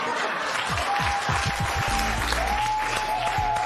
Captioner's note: laughter, cheers and applause